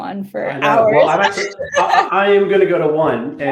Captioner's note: laughing